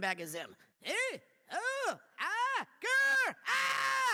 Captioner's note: yells like Zim